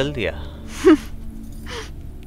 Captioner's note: Gauravi giggling